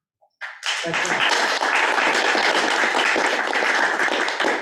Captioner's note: audience applauding